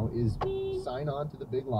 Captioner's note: beeep